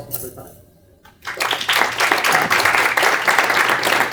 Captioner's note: applause